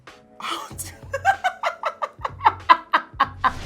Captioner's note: laughing